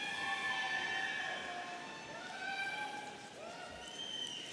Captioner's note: audience cheering